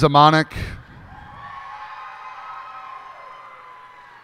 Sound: cheers and applause

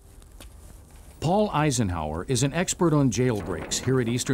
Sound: voiceover

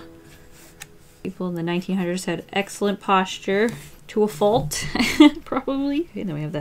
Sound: laughs

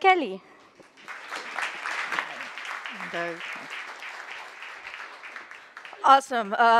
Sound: applause

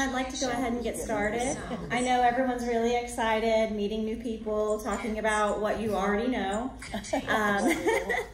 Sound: laughter

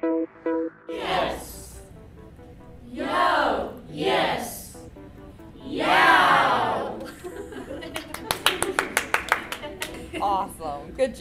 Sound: professor clapping

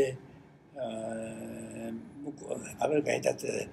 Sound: foreign language

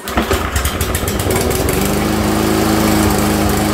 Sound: engine revving

